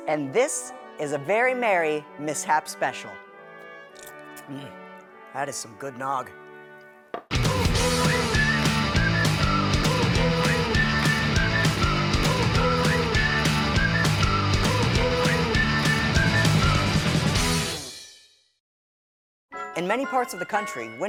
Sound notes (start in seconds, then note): 7.4 spirited instrumental music; 7.8 whistling